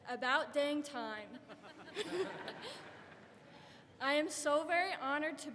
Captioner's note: audience laughs